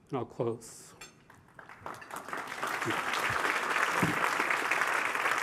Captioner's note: applause